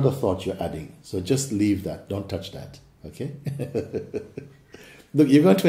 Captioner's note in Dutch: lacht